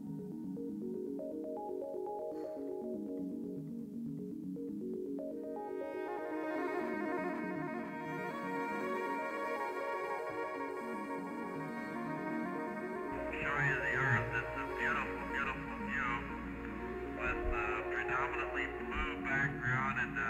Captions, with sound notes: (uplifting violin music) - [Astronaut Speaking Over Radio] The view of the Earth is a beautiful, beautiful view with a predominantly blue background